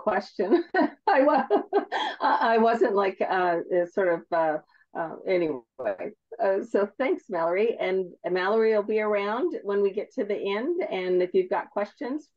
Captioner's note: laughs